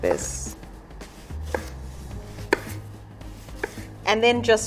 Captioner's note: knife tapping against wooden board